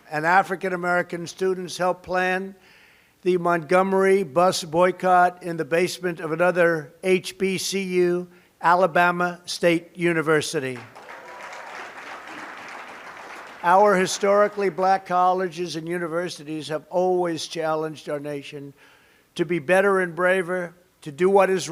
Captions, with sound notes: And African American students helped plan the Montgomery Bus Boycott in the basement of another HBCU, Alabama State University. (applause) Our Historically Black Colleges and Universities have always challenged our nation to be better and braver, to do what is